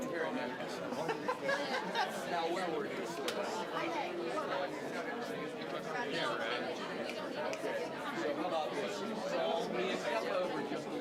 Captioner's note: general chatter